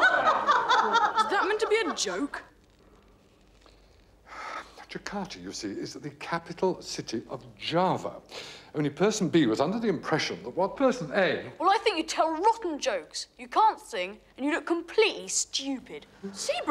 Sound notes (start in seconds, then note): 4.2 sighs